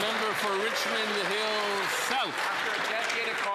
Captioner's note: applause